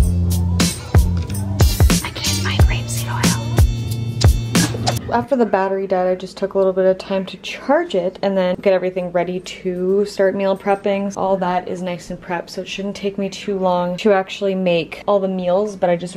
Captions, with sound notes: *whispers*: I can't find rapeseed oil after the battery died I just took a little bit of time to charge it and then get everything ready to start meal prepping. All that is nice and prepped so it shouldn't take me too long to actually make all the meals but I just